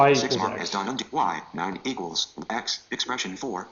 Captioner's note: computer Voice